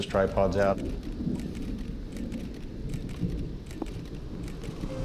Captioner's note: camera shutters clicking